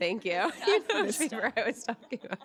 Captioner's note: laughter